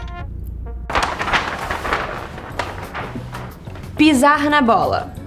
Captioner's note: paper rustling